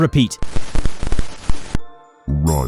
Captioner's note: static noise